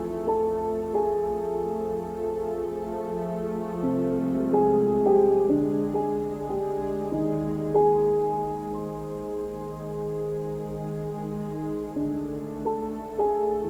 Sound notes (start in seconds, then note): none